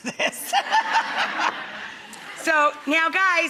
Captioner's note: laughter